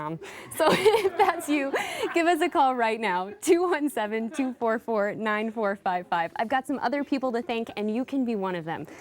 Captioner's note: laughing